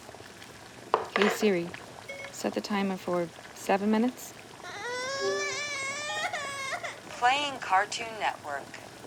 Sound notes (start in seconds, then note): 4.6 Jack crying